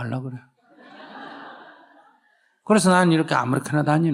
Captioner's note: audience Laughter